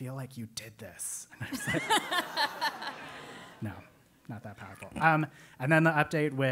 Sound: laugh

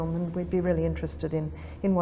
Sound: none

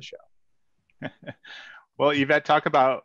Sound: laughs

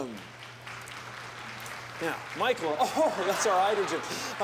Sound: applause

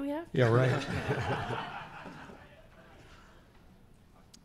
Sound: laughing

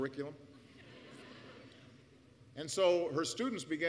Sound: laughter

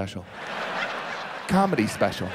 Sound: audience laughs

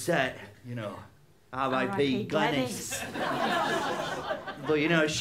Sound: laughter

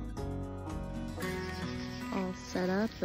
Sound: birds chirping

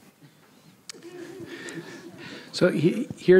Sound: audience laughs

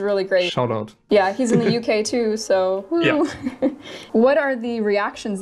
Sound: laughs

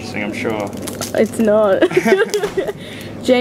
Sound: laughs

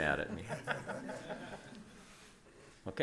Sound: laughter

